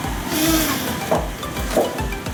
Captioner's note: 𝐁𝐔𝐌𝐏